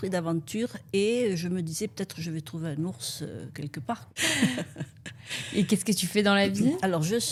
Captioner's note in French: rires